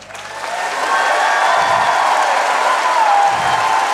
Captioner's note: audience cheering